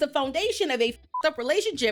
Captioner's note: beep